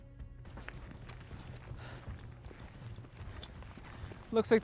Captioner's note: footsteps